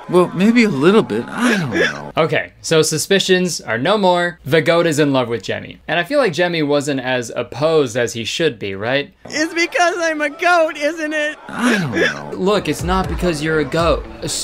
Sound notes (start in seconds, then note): 1.2 goat whimpering